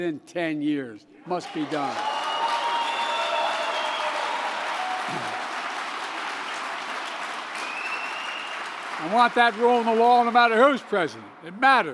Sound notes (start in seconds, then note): 3.2 applause